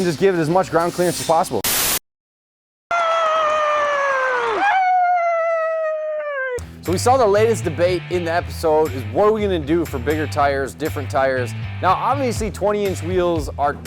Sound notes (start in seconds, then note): 1.6 static; 2.9 cheering